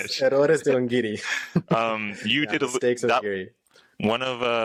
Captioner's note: laughter